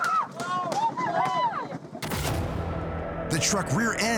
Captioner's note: screaming